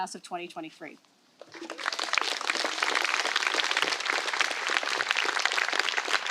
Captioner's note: applause